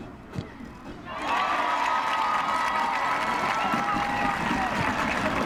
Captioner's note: crowd cheering